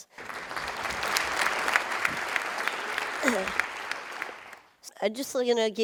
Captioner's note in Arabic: تصفيق